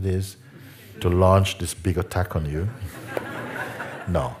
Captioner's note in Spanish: risas